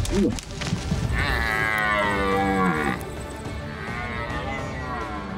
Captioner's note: moose grunts; stag bellows